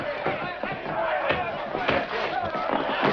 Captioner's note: thud